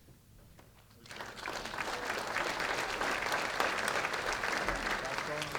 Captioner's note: applause